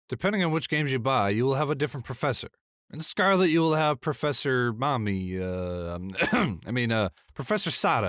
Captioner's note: ahem